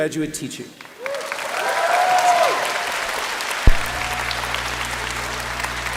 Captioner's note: applause